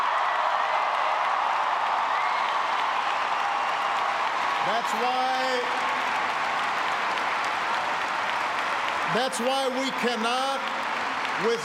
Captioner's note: cheers and applause